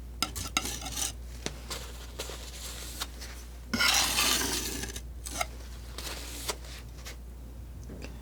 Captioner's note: scratching